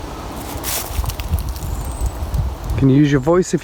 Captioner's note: leaves rustling